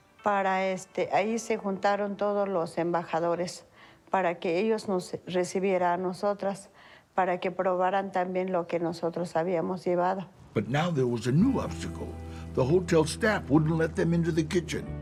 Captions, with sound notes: That's where all the ambassadors were sitting, so that they could greet us and so that they could try what we had brought. [in English] But now, there was a new obstacle. The hotel staff wouldn't let them into the kitchen.